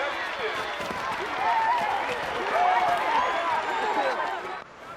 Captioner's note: all cheering